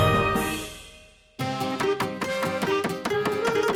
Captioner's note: chopping sounds